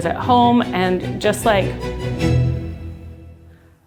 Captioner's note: sighs